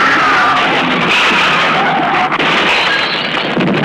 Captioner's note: crashing